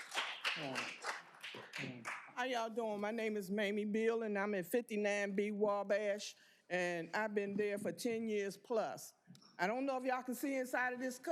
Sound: cheers and applause

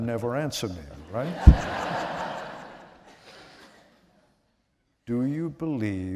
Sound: laughter

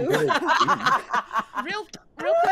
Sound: players laughing

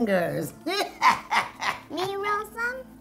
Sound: cackles

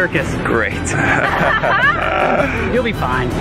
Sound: laughing

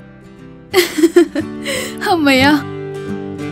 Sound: Vasundhara chuckles

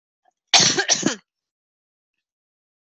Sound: coughing

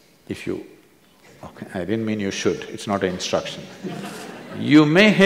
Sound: few laugh

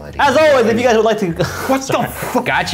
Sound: laughing

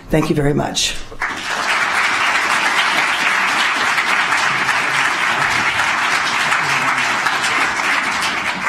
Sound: applause

